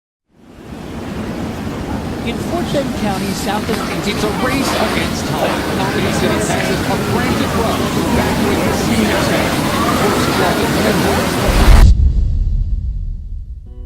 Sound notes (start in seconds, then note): 2.0 heavy rain; 5.9 sirens; 8.2 heavy wind and rain